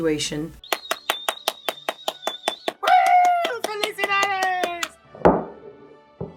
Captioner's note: claps